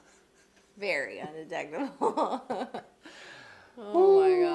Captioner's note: giggles